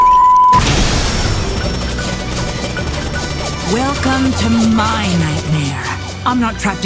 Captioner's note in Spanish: explosión